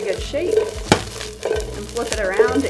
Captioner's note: pan contents rustling